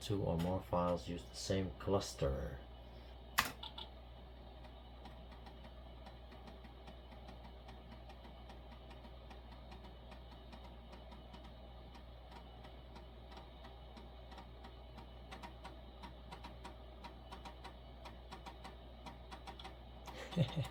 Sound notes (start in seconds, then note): 4.6 sound of writing to the diskette